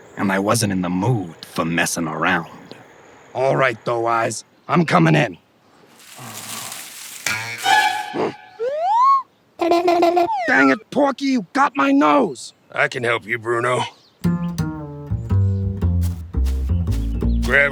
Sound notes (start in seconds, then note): 0.0 Bruno Voice Over; 5.8 rustling